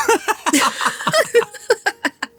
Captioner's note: laughter